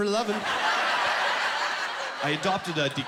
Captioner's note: laughing